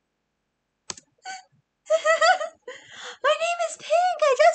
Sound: laughs

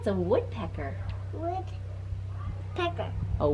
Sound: none

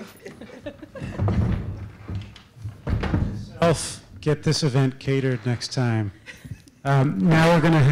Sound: laugh

